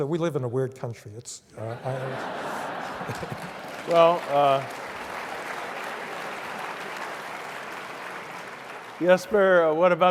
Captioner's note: applause; laugh